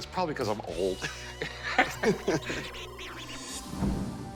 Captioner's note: laughs